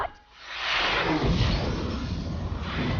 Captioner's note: boom